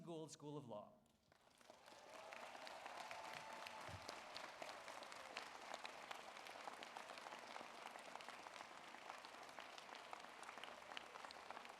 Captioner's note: applause